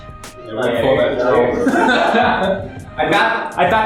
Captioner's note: laughs